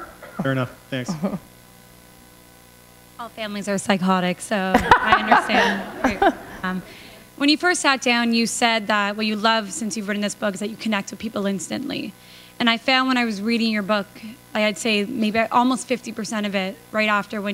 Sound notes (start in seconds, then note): 4.7 laughter